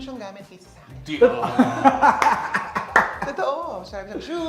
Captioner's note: laughing